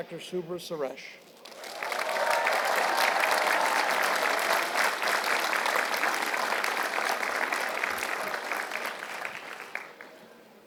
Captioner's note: applause